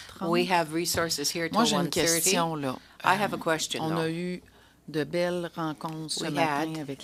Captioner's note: speaking French